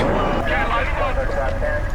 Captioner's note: screaming; sounds of two-way radio